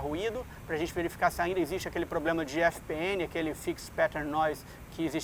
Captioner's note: fixed pattern noise